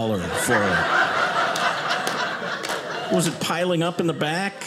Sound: audience laughing

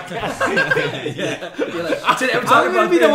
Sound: laughs

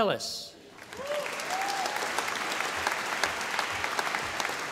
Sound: audience applauding

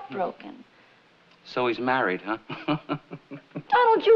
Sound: chuckles

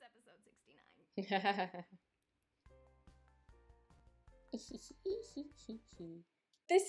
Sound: giggling; laughing sarcastically

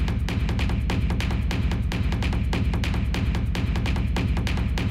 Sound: none

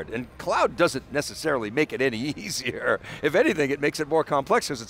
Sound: laughs

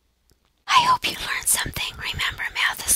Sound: whispering

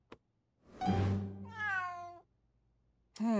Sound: meowing

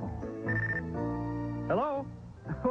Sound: phone rings

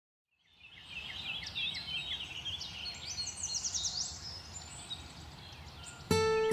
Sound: birdsong

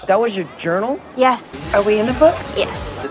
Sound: none

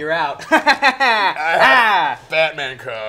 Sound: laughs

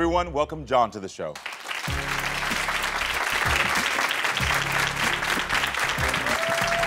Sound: audience applauding and cheering

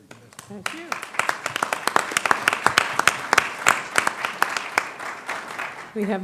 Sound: applause

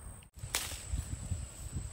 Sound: braches Rustle

